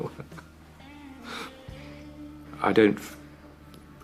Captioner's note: chuckles